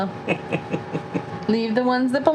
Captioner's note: chuckling